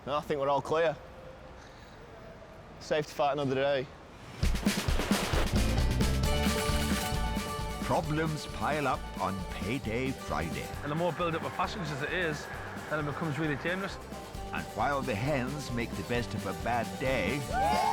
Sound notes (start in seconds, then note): 4.1 train whooshing; 4.6 upbeat music; 6.5 destination board clacking